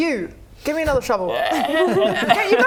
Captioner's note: ribbet